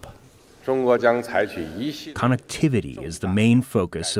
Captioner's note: speaking foreign language